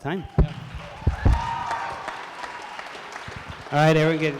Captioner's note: applause